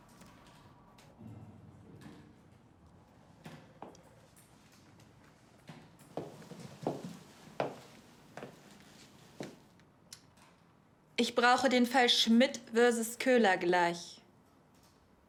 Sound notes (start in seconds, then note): 6.1 footsteps